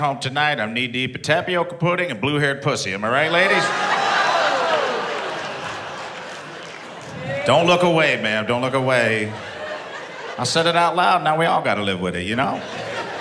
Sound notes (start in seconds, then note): 3.2 laughs